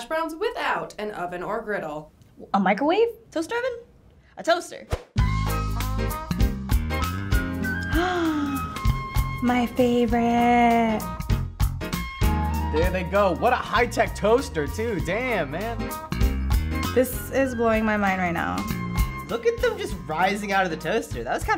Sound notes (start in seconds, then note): 5.8 upbeat music; 7.6 gasps